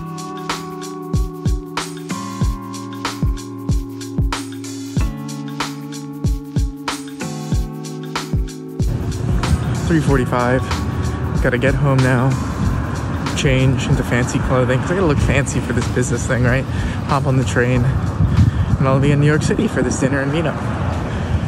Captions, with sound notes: (relaxed music plays) (wind blowing and traffic in background) 3:45, gotta get home now, change into fancy clothing. Because I gotta look fancy for this business thing, right? Hop on the train. And I'll be in New York City for this dinner and meet up.